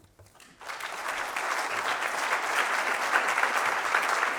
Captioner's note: applause